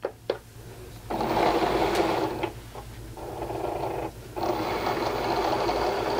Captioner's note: machine whirring and beeping